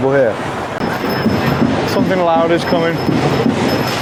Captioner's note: bell chiming